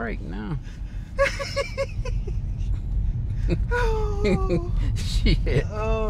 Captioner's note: laughing